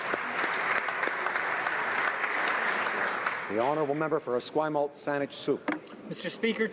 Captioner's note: applause